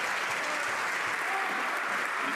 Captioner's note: some Applause